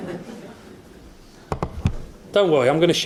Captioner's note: audience laughs